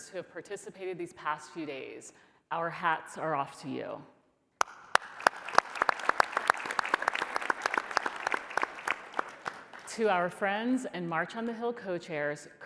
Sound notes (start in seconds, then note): 4.6 applause